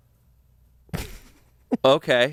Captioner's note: laughs